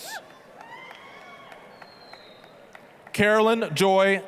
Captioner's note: applause, cheering